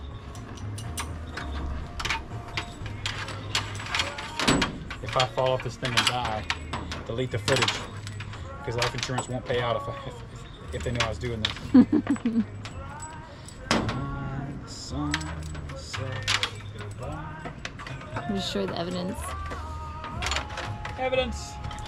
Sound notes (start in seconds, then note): 11.6 laughing